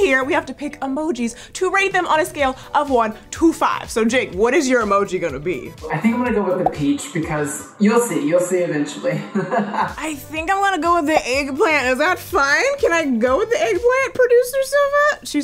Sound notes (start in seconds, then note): 9.1 chuckles